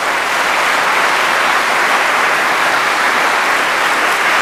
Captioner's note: applause